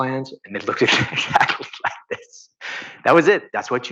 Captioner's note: laughing